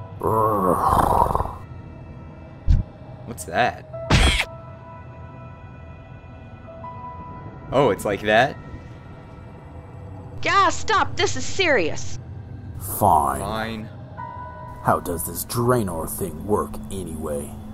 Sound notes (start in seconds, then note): 0.2 Tauren grumbles; 4.1 marmot scream